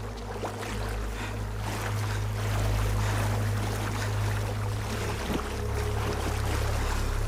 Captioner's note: water sloshing; both breathing hard